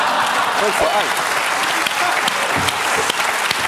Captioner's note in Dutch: gelach